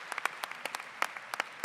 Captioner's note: applause